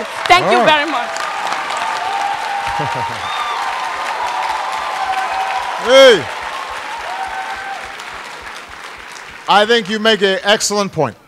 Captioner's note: applause